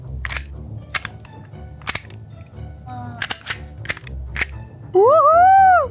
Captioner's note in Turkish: çakma sesi